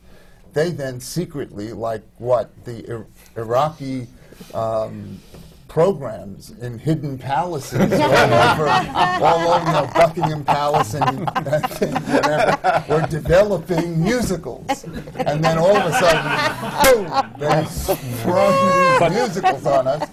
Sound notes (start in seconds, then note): 7.7 laughter